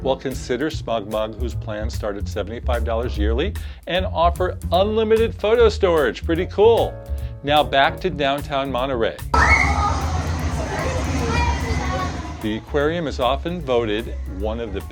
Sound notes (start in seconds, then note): 9.3 children shriek; 9.4 water splashing